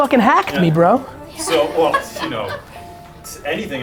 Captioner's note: laughter